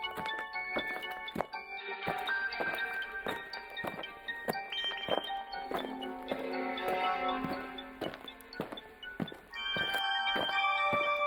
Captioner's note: alien footsteps